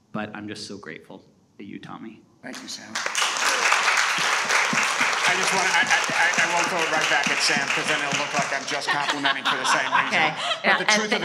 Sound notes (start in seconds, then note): 2.5 audience applauding